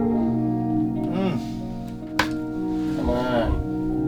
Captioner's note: band member groans